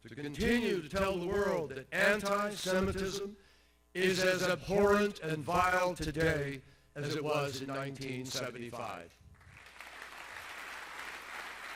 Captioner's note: applause